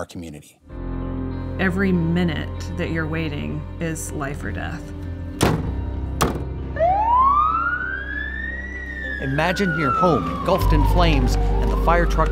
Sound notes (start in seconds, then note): 5.3 ambulance door slams; 6.7 siren wails